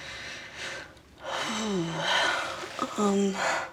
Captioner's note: inhales deeply